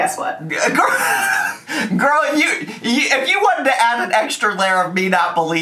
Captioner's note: laughing